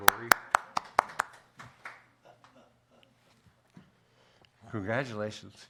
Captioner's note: applause